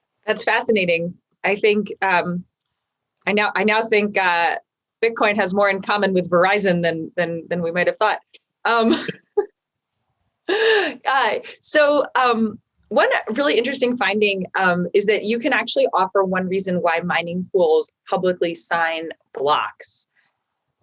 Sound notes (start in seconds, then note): 8.8 laughing